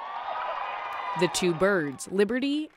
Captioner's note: cheering and applause